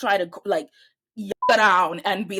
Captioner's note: beep